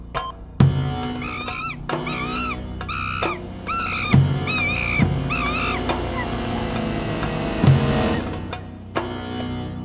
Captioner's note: monkeys screaming